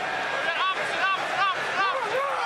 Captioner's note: shouting on field